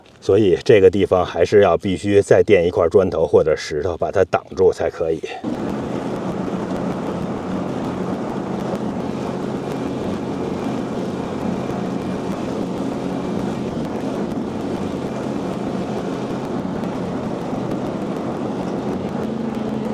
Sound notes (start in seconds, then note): 5.5 sound of tractor